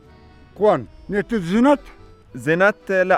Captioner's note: speaking in Kyrgyz